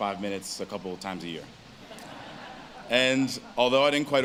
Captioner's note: audience laughs